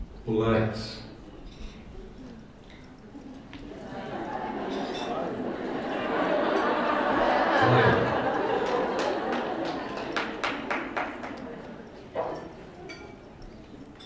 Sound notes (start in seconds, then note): 0.2 computer voice; 11.1 laughter